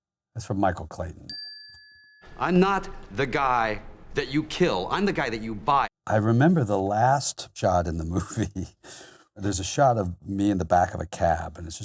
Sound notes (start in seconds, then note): 1.3 bell chiming